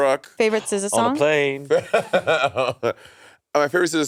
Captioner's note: Monét laughing